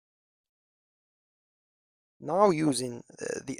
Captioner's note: pause